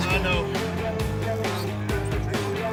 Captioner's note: laugh